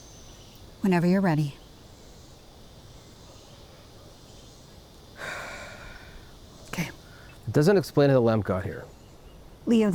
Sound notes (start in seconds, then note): 5.2 Rachel exhales